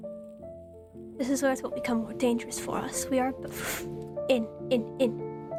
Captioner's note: inhales